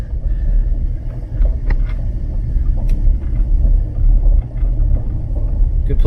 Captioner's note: truck motor